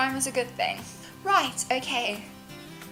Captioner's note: inhale